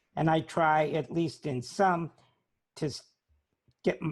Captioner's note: none